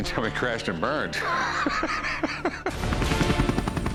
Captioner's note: laughs